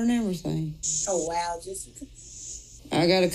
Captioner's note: laughing